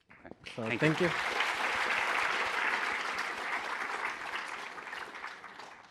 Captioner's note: applause